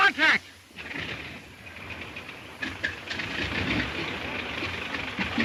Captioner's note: plane engine sputters